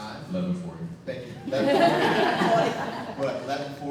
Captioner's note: audience laughing